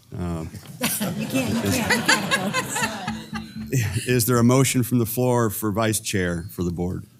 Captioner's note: laugh